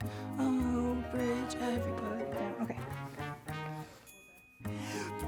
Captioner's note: humming